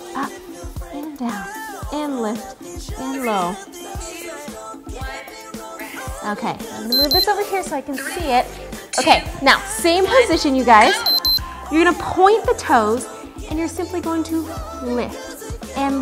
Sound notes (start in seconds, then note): 6.9 timer beeps; 11.0 beeps